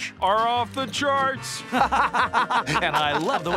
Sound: laughing

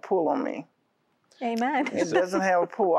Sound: giggle

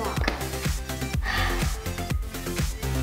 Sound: sighs; upbeat music

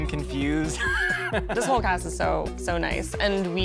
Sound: laughs

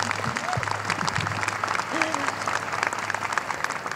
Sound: applause

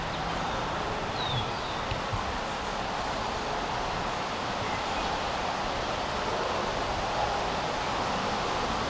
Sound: road noise; birds; wind

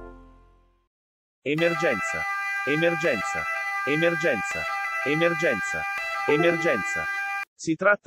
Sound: siren

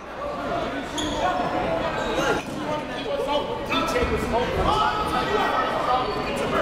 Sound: crowd talking; coaches yelling

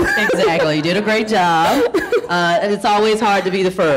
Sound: laughing

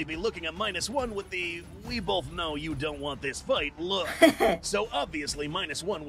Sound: laughs

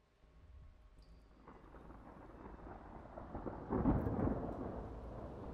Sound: thunder rumbling

